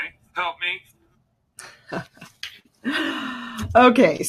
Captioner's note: laughs